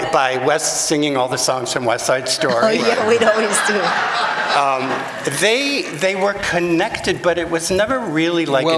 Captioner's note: laughter